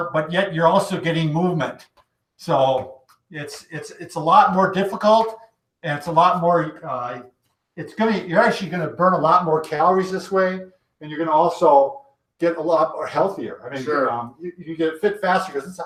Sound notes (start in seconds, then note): none